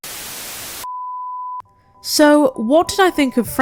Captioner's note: static